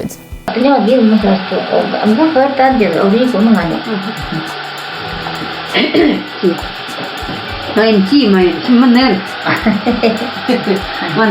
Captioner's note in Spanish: hablando Nenets